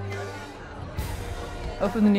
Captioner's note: people chattering